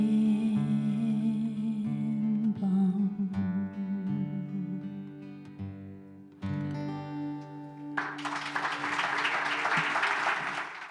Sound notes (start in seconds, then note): 7.9 audience applauding